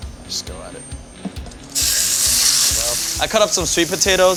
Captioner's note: sizzling pan